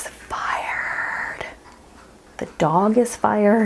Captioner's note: sound of dog drinking off camera